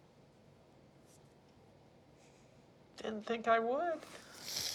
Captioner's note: sniffles